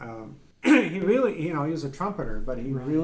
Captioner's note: laughing